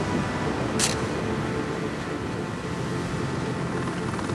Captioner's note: camera snapping